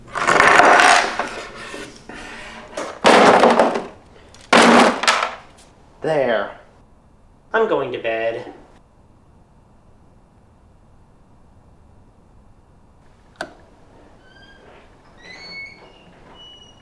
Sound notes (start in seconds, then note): 4.2 boxes get thrown into the bin; 13.3 clicks off light switch; 13.4 door squeaks